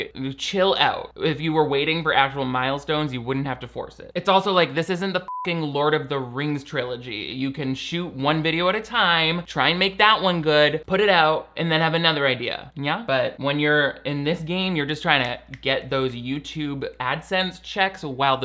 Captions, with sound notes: Like, chill out. If you were waiting for actual milestones, you wouldn't have to force it. It's also like this isn't the (beep) "Lord of the Rings" trilogy. You can shoot one video at a time. Try and make that one good, put it out, and then have another idea, yeah? But when you're in this game, you're just trying to get those YouTube AdSense checks